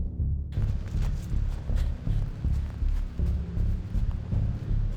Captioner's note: leaves rustle